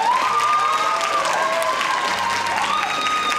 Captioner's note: cheering